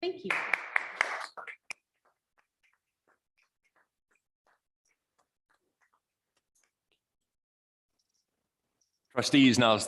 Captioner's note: audience clapping